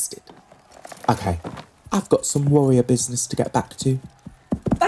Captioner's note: rider leaves on horseback, gallops fade